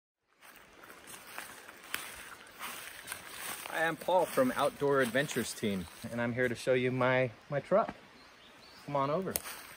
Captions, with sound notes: (rustling grass) - I'm Paul from Outdoor Adventures Team, and I'm here to show you my truck. Come on over.